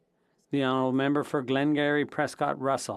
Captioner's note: speaking French